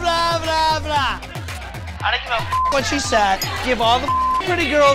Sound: beep

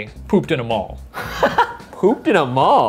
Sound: laughs

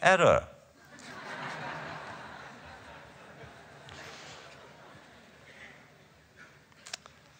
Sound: laughter

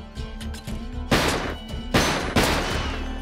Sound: gunfire

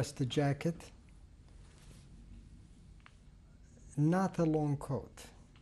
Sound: pauses for 3 seconds

